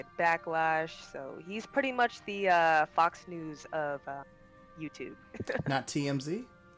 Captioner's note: laughs